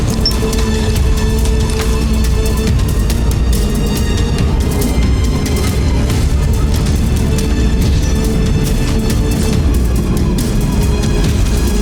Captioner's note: music swells; wind gushing